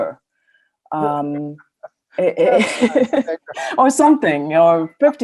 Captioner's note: laughing